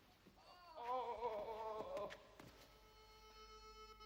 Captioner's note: King exulting